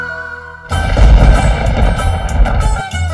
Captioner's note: Thundering